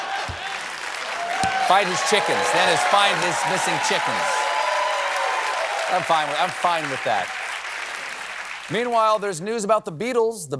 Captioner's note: applause